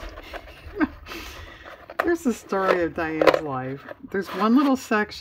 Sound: laughs

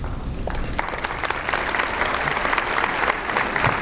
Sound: applause

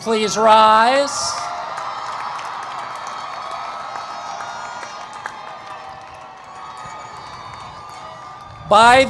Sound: cheering and Applause

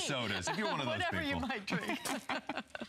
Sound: laughter

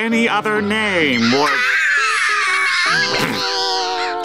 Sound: squawking

